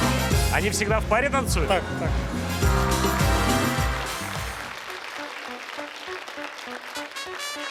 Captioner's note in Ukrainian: оплески